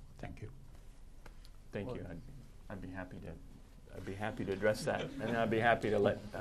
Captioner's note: laughter